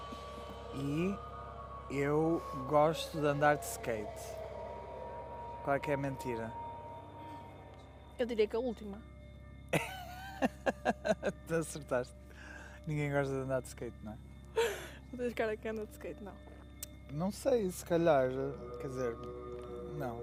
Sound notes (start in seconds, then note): 9.7 laughter; 14.9 laughs